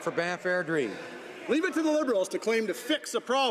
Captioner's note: some Applause